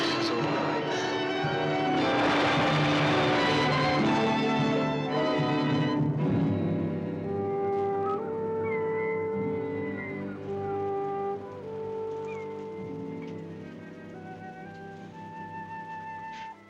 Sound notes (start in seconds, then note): 1.6 waves crashing; 2.0 sentimental music; 7.5 ominous music; 7.5 seagulls squawking; 14.0 ominous music